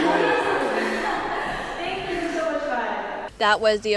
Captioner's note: happy noises